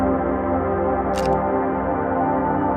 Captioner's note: camera shutter clicks; soulful music continues